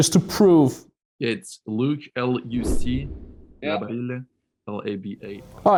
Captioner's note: air whooshing